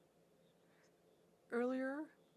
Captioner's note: speaking French